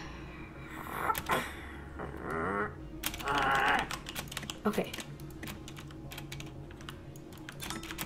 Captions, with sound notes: ACKKK *growls* AGHHHHHH ok...